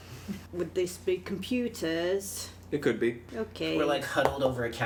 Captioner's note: none